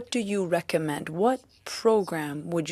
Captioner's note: speaking French